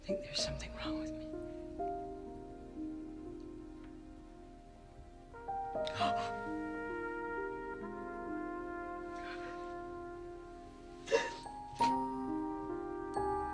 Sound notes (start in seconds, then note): 2.1 emotional music; 11.0 Mrs. Porter sobbing